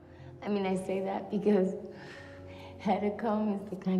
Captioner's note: exhales